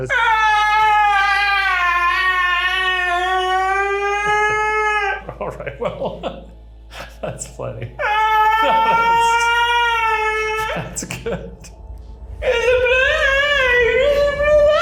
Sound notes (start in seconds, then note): 0.0 wailing; 0.3 laughing; 7.9 wailing; 8.1 laughing